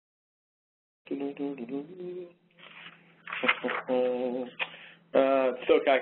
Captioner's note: humming